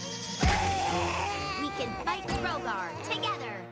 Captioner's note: crcrying